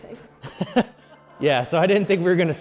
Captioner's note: laughing